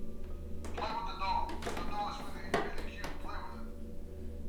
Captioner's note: murmering